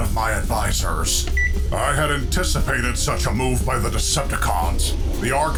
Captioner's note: klick!!